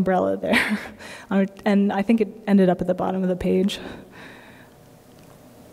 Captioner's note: laughter